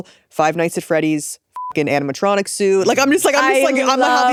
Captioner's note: beep